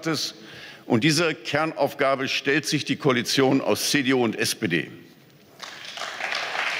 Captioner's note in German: Beifall